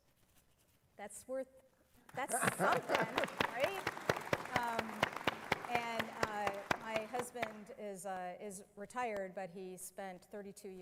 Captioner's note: applause